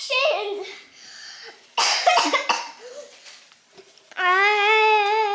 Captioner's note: coughs